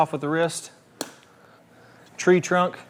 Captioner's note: tee clinks